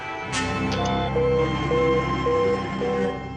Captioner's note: warning tone